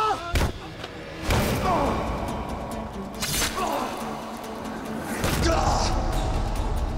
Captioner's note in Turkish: Dövüş sesleri